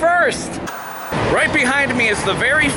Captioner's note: white noise scratching